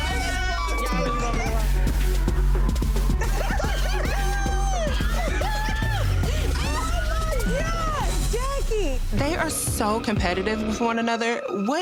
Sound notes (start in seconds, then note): 3.4 people laughing